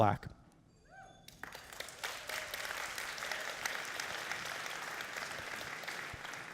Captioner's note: audience cheering and applauding